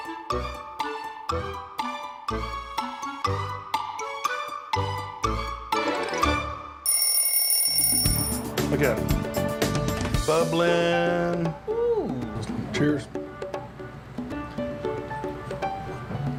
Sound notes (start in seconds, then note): 1.9 timer music; 6.9 timer buzzing